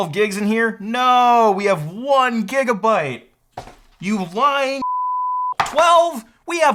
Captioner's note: beep